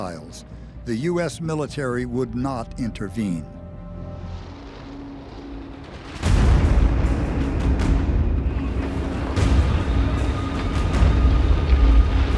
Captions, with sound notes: the US Military would not intervene. [plane engine whirring] [explosion] [tense music playing]